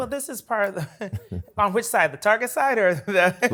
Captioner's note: laughs